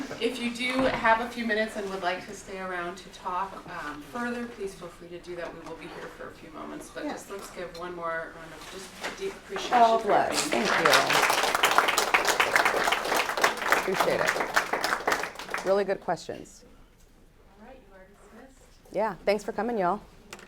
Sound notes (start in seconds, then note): 10.1 applause